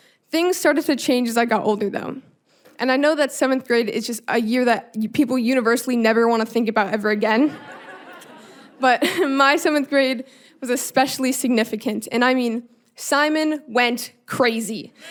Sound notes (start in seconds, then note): 7.4 audience laughing; 7.5 chuckling